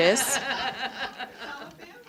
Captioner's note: audience laughing